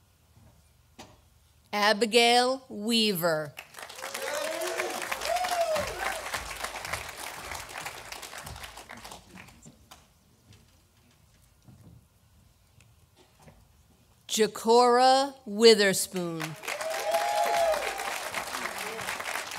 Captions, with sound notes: Abigail Weaver, (audience applauding) Jercora Witherspoon, (audience applauding)